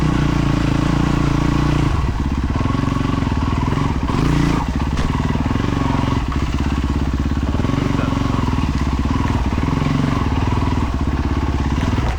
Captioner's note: engine revving